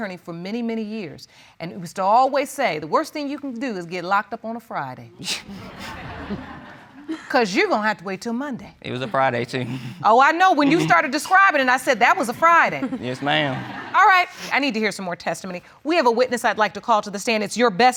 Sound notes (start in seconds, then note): 5.5 audience laughing; 10.6 chuckles